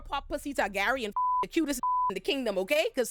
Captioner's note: beep